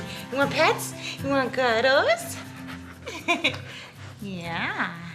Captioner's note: laughs